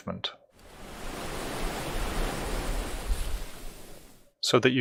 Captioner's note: wave crashes